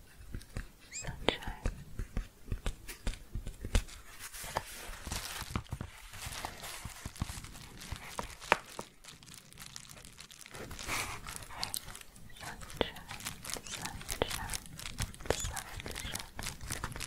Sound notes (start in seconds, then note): 0.0 gentle tapping; 1.9 gentle tapping and crinkling; 16.8 shuffling and crinkling